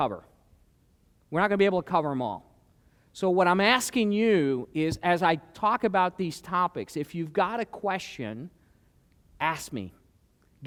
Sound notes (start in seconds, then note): none